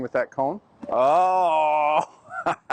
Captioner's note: laughing